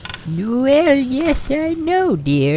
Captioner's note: fire Crackling + Rocking Chair